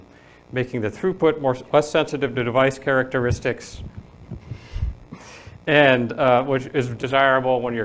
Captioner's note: laughing